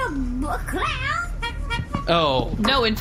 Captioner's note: clown pops head in and begins honking